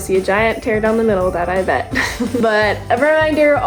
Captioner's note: laughs